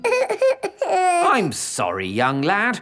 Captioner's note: whimpers